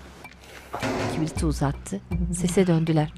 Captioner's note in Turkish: Devrilme sesi